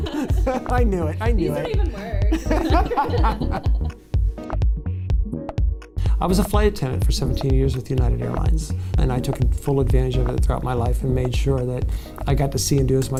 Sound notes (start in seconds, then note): 1.6 laughter